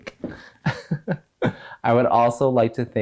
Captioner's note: chuckles